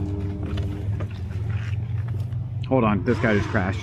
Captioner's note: engine humming